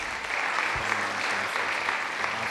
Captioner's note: clapping